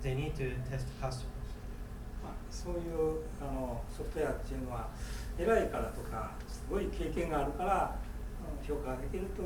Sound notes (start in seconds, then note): 2.8 speaking in foreign language